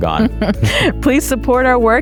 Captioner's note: chuckling